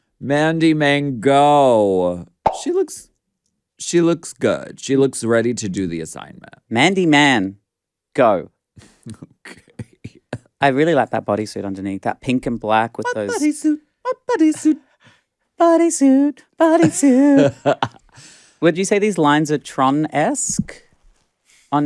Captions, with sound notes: Mandy Mango. She looks, she looks good. She looks ready to do the assignment. - Mandy Man Go. - Okay. (laughs) - I really like that bodysuit underneath that pink and black with those- - What bodysuit? What bodysuit? - Bodysuit, bodysuit. (laughs) Would you say these lines are Tron-esque